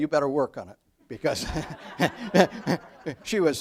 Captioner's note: audience laughs